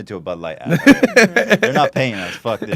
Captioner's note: laughs